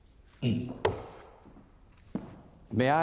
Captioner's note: footsteps; taps banister